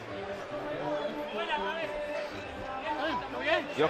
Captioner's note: speaking Spanish